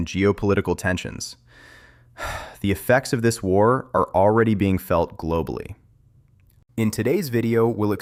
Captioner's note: sighs